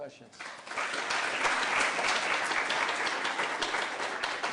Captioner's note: applause